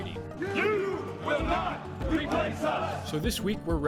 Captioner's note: chanting in unison